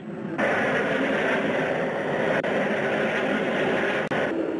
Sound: planes roaring

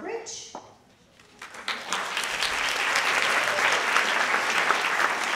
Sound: audience clapping

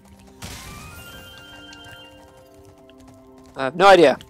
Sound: life twinkles

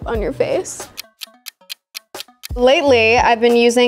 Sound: clock ticking

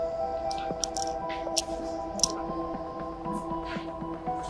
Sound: door rustling

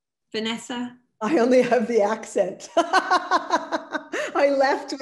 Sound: laughs

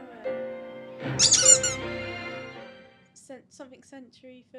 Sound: toy squeaks

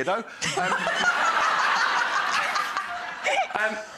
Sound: audience laughs

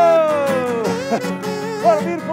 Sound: imitates kazoo; upbeat guitar music

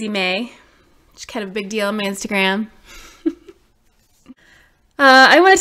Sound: laughs

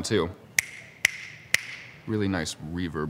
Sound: snapping

